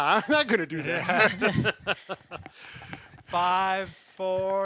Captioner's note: all laughing